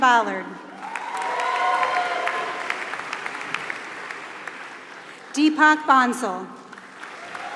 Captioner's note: applause